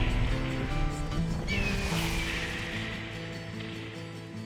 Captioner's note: hawk screeching